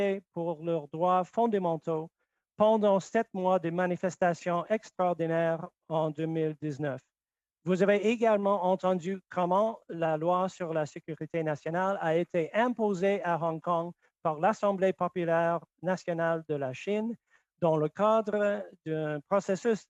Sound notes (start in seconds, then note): 0.0 speaking French; 3.9 speaking French